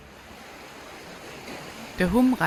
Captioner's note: water splashing